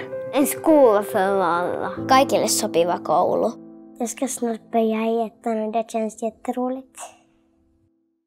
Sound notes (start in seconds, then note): 3.9 child speaking